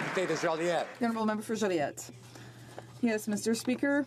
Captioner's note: some Applause